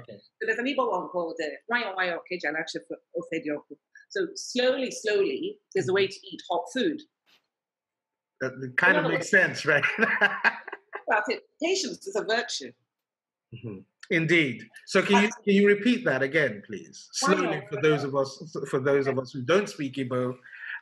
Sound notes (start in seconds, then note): 10.1 laughs